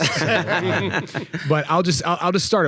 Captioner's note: all laughing